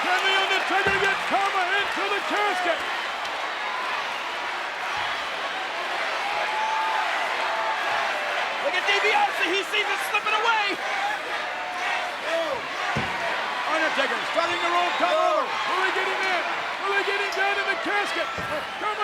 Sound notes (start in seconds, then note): 4.1 audience chanting